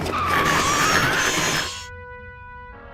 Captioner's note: hooves screeching; metal grinding; growls